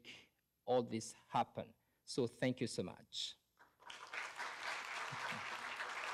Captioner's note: applause